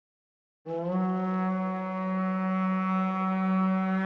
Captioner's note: horn blares